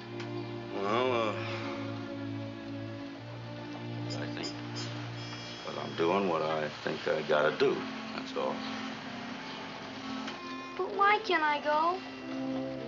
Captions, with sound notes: Well, uh... ( sighs ) I think that I'm doing what I think I gotta do. That's all. But why can't I go?